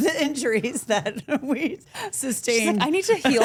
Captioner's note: chuckling